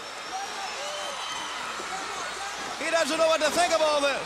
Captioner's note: crowd cheering